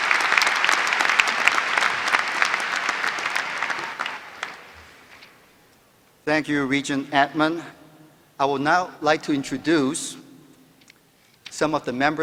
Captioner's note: applause